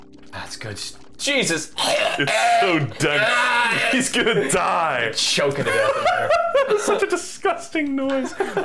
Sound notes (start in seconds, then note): 1.8 horrible choking noises; 5.4 laughing